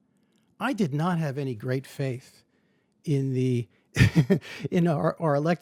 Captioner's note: laughs